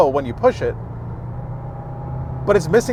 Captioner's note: engine revving